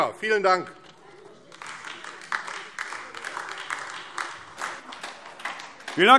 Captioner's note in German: Beifall AfD